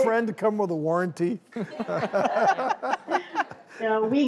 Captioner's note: laughs